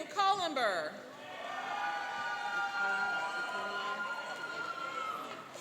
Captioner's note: cheering and applauding